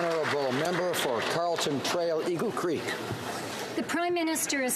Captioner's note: applause